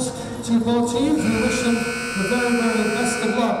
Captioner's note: buzzer buzzing